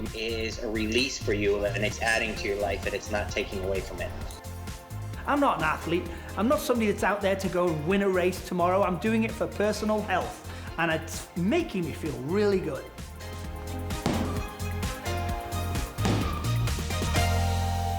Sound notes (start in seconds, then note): 13.8 ball hitting